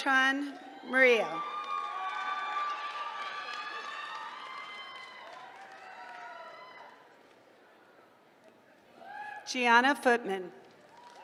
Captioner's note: applause; applause